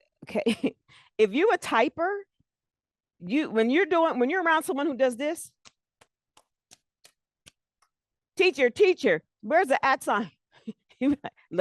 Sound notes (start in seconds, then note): 5.6 mimics loud typing; 10.3 laughs